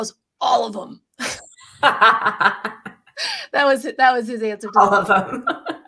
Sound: laughter

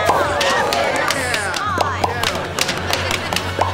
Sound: cheering; popping

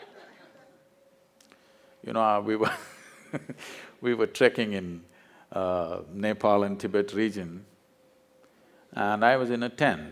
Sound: laughs

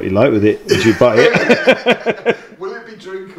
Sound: laughing

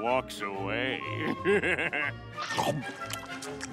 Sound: laughing

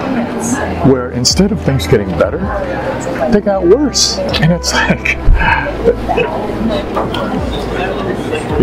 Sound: deep sigh

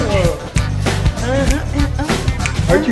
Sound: funky dance music playing; humming

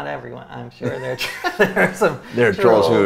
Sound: both laughing

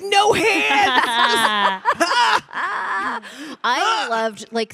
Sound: panelists laughing

